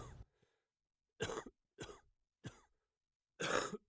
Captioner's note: patient coughing